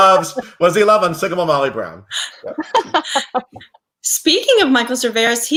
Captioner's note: laughs